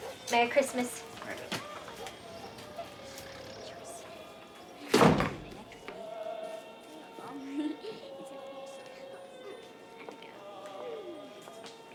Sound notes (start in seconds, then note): 4.9 door thudding; 5.3 family chattering